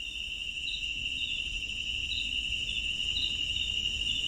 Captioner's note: birds chirping